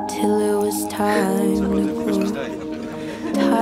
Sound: chatter

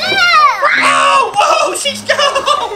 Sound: screams

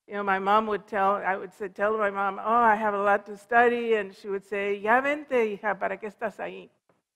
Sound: foreign language

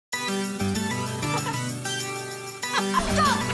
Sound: laughing

